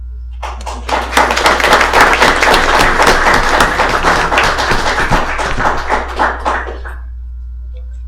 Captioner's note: applause